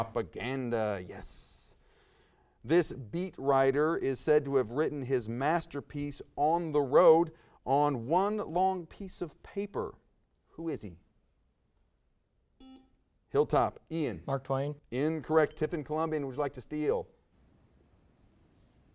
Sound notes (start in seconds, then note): 12.6 buzzer buzzes